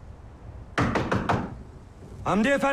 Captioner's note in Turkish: Kapı vurulma sesi